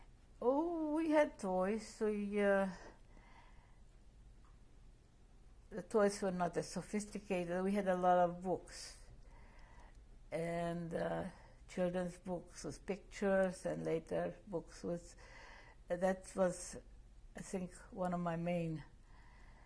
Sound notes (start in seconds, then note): 2.5 pauses for 3 seconds